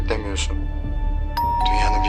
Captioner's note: doorbell rings